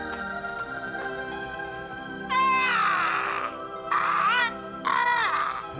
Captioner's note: squawking